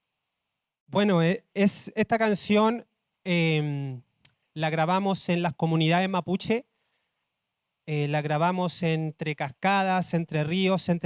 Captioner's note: speaking Spanish